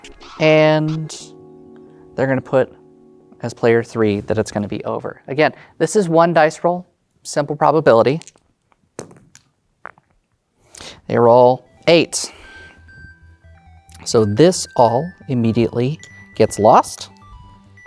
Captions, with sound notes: And, they're gonna put, as player three, that it's gonna be over. (song ends) Again, this is one dice roll. Simple probability. (dice rolling) They roll 8. (new song begins) So, this all, immediately, gets lost.